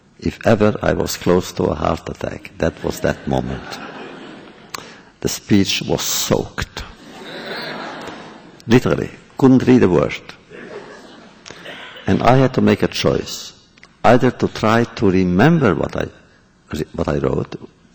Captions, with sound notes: if ever I was close to a heart attack, that was that moment. (laughter) The speech was soaked. (laughter) Literally. Couldn’t read a word. And I had to make a choice, either to try to remember what I wrote